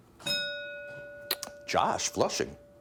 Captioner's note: bell dinging